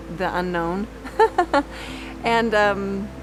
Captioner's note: laughs